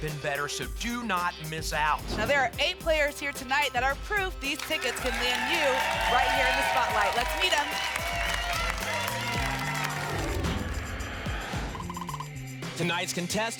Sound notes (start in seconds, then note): 8.1 applause and cheering; 10.1 whoosh